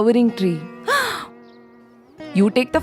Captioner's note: gasp